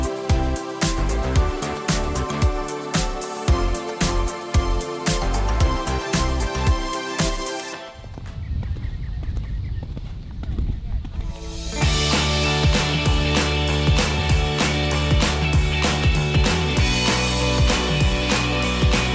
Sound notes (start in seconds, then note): 7.8 sound of horse galloping; 11.3 upbeat music